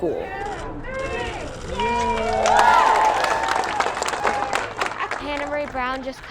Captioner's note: cheers and applause